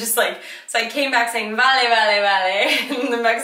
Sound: speaks in foreign language; speaks foreign language

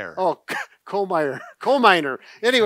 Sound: chuckles

